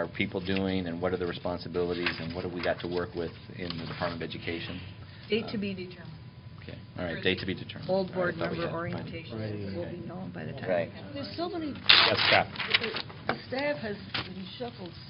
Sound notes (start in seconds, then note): 11.6 indistinct chatter